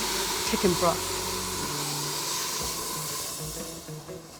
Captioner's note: sizzling